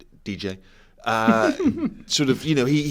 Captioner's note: laugh